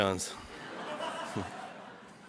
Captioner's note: audience laughs